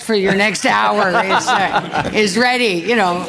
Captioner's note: laughter